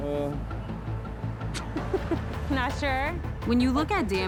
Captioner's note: laughs